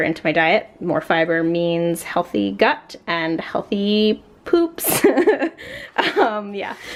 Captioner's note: laughs